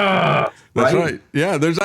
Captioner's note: groans